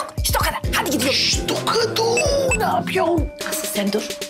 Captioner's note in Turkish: Mesaj zili sesi